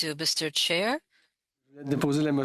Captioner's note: speaking French